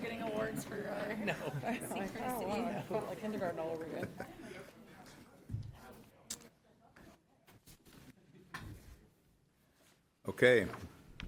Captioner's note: laughter